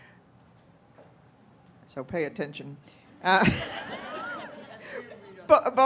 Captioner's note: laughing